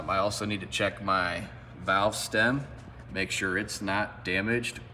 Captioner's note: none